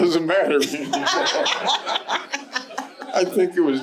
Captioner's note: laughing